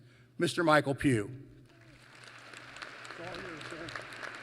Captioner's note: applause